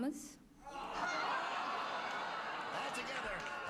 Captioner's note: audience groans